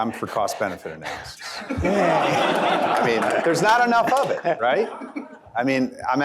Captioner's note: laughter